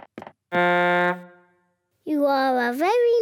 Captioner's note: blows horn